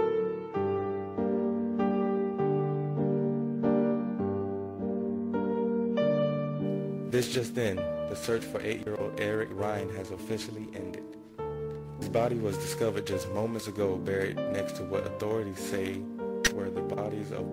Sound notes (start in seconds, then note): 7.0 radio Announcer